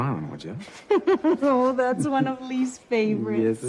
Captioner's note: chuckles